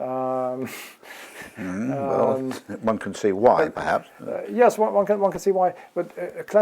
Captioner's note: laugh